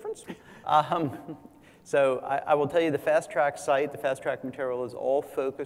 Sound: laugh

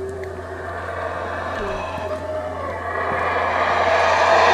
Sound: howler monkeys Howling

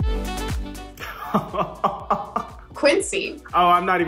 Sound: Quincy laughing

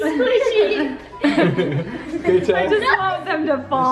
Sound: family laughs

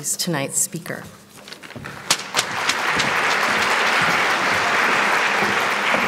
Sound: applause

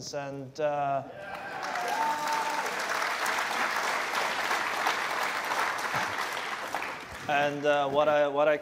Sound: cheers and applause

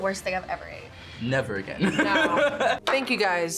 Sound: laughs

